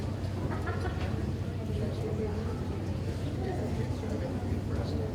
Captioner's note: speaking faintly